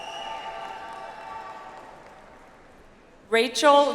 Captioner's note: audience applauds